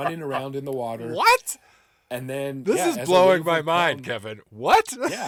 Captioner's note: laughing